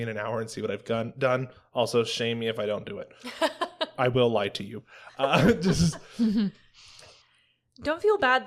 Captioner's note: laughter